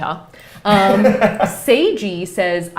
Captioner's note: laughs